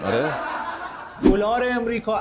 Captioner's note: laughter